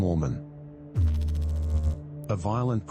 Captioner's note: electrical noise